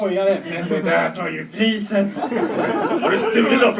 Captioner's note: laughter